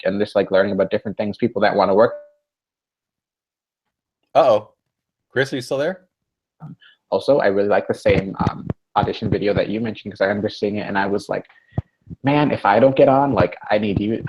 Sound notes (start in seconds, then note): 2.3 silence